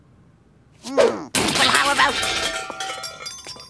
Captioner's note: cake crashing